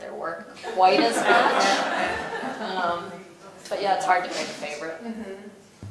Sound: laugh

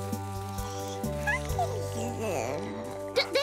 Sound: cooing

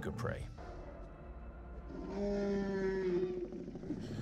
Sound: dinosaur growls

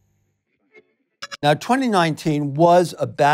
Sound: digital blip

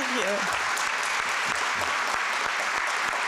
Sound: applause

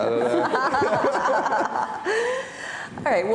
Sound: laughing

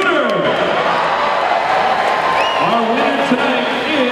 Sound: crowd cheering

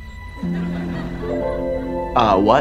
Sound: laughing

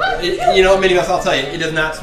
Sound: voiceover

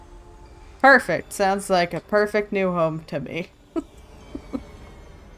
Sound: laughs

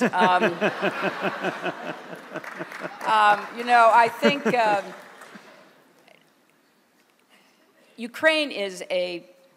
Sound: laughter

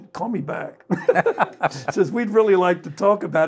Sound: panel laughing

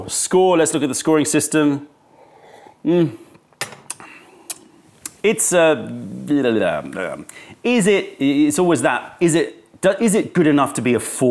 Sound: sips tea

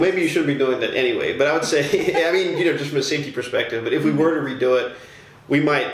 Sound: laughter

